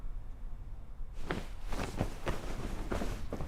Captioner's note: Phoebe rustling